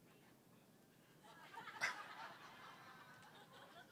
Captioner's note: laughter